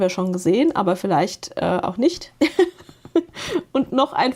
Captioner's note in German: gelächter